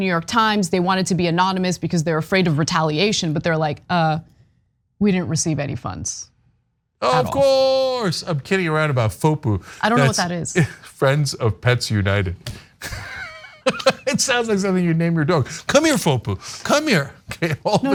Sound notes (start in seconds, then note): 12.8 laugh